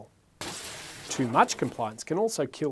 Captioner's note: crash